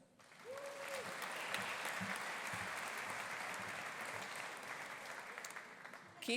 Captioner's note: audience applauding; audience cheering